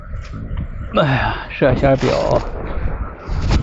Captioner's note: sounds of running and breathing